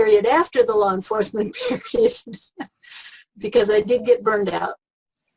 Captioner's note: laughs